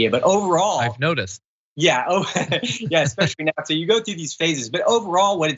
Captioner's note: laugh